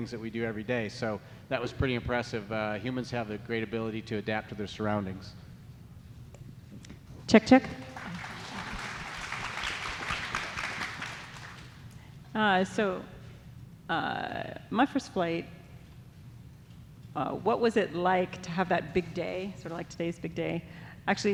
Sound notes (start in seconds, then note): 7.7 audience applauds